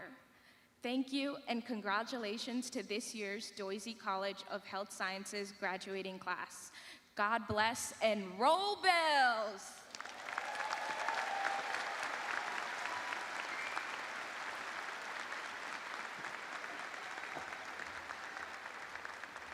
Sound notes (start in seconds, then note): 5.5 cheers and applause